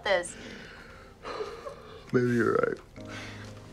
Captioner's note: Nicolas sighs